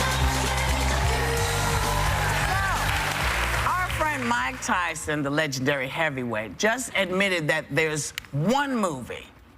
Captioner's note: cheers and applause